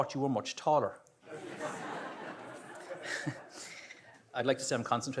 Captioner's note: audience laughs